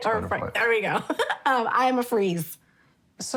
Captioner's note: laughs